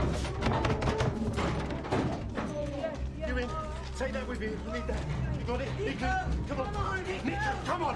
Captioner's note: banging on door